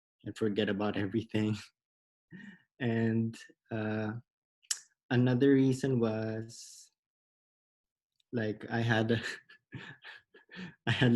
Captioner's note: laughs